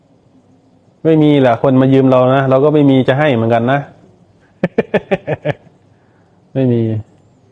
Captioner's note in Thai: เสียงหัวเราะ